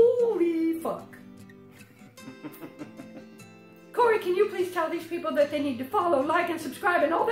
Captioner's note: giggles